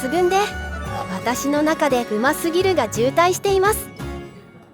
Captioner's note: laughs